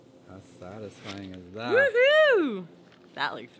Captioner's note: shouts